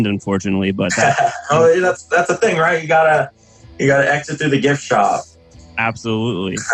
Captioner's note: laughs